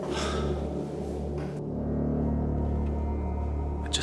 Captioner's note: man sighs